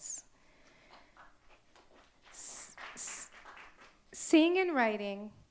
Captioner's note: audience clapping